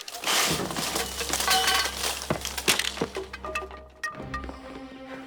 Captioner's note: stand clattering; tense music